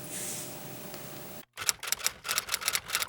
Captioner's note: typewriter keys clicking